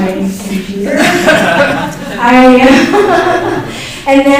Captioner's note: laughter